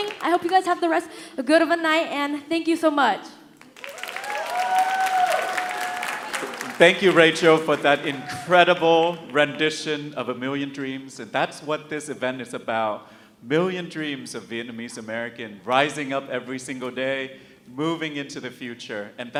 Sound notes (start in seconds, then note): 3.6 audience cheering and applauding